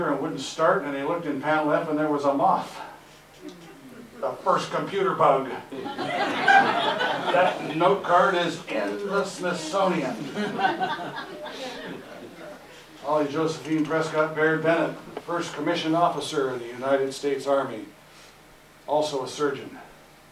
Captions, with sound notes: wouldn't start, and he looked in panel F, and there was a moth. The first computer bug! (Audience Laughter) That note card is in the Smithsonian! (Audience Laughter) Holly Josephine Prescott Baird Bennett. First commissioned officer in the United States Army, also a surgeon.